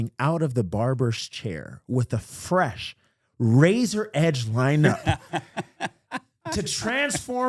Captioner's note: laughing